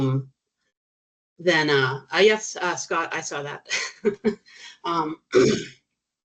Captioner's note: chuckling